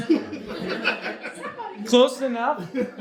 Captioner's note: audience laughs